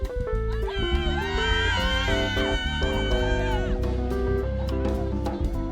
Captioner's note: students cheering and screaming